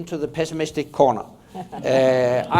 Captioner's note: laughter